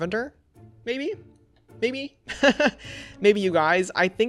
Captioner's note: laughs